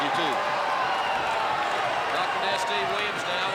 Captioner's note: crowd chatter